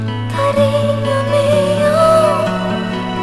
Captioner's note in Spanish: Voz de mujer